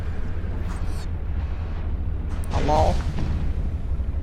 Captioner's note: distant roar